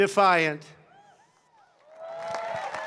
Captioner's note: applause